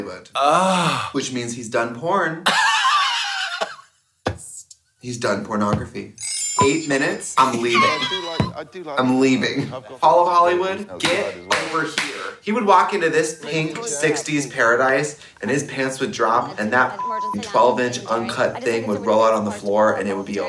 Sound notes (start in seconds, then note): 2.4 Katya laughs; 16.8 beep